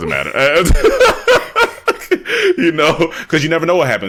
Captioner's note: laughing